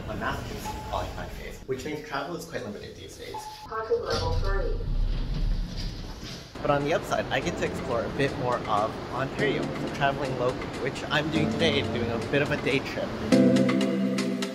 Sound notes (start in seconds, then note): 3.3 elevator announcement; 13.2 relaxed background music